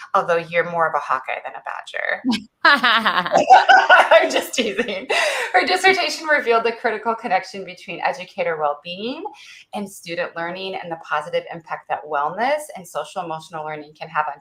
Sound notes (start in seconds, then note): 2.6 laughs